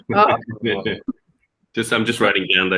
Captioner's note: laughter